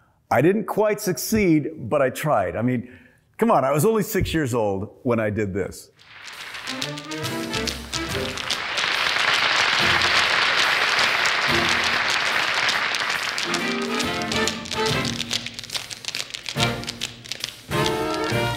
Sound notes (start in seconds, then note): 6.3 music and tapping; 8.8 applause; 14.0 music and tapping